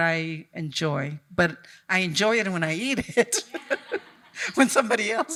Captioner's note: laughs